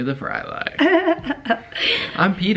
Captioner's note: giggling